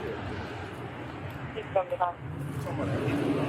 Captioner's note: radio chatter